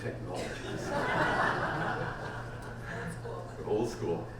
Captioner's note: audience laughs